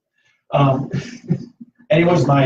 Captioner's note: laughter